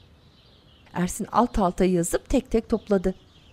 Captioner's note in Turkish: Kuş cıvıltısı sesleri